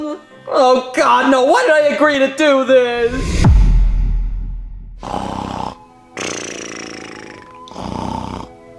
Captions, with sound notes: Oh God, now why did I agree to do this? (dramatic music) (Mario snoring)